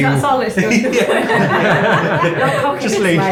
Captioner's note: laughing